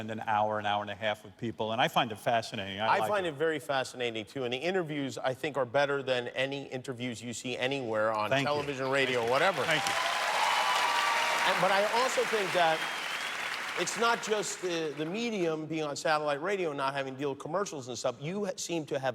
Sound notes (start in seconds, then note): 12.9 cheers and applause